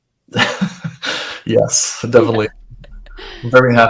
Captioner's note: laughs